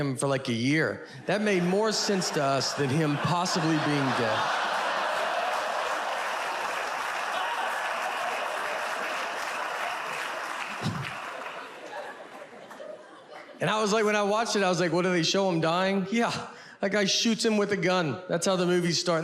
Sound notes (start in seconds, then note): 1.2 audience laughs; 5.6 audience laughs, claps